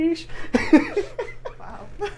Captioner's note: laughs